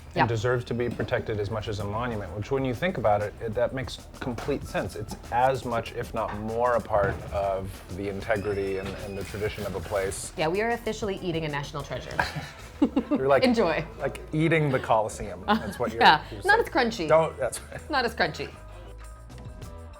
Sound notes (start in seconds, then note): 12.0 laughs; 19.1 light, upbeat music